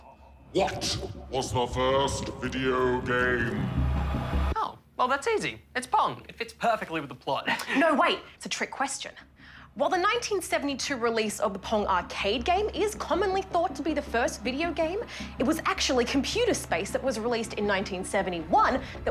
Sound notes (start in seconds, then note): 7.4 chuckles